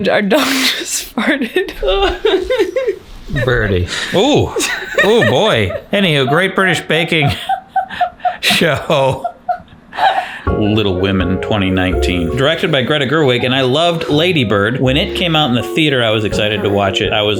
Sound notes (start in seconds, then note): 2.6 laughs; 4.5 laughs